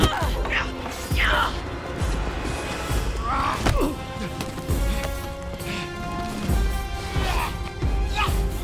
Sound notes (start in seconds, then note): 3.1 fighting grunts continue